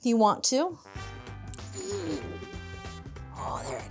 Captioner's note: upbeat music; groans